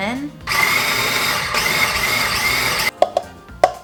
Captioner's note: blender whirs